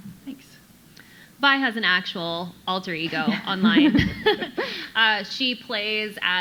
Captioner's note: chuckles